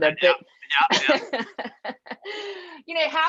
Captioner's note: laughing